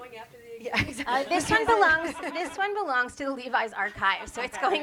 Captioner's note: chuckling